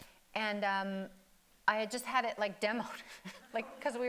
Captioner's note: chuckles